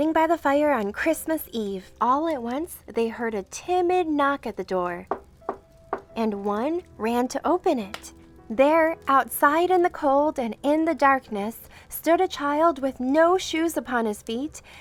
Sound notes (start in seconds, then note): 5.8 door knocking